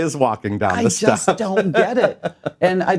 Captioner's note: laughs